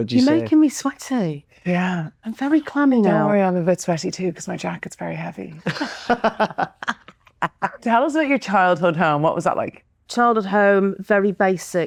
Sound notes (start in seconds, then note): 5.6 laughing